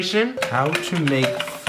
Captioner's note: keyboard clicking